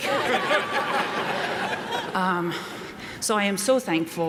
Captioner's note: audience laughs